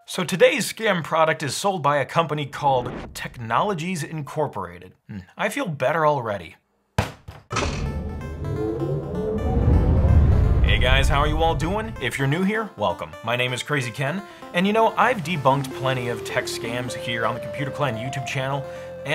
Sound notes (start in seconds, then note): 6.7 head banging; 7.5 upbeat music